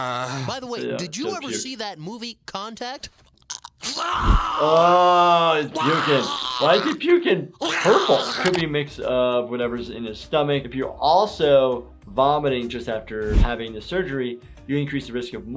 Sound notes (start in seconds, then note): 0.0 Mr. Garrison groans; 3.2 Mr. Garrison retches